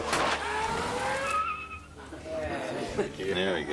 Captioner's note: tires screeching